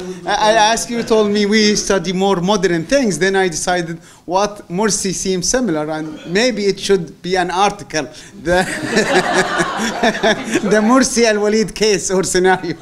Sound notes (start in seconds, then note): 8.6 laughter